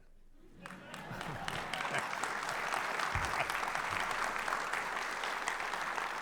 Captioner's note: audience laughing; audience applauding